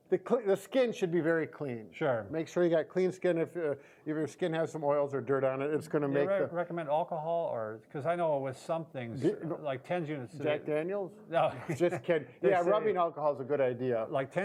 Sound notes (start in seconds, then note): 11.4 chuckles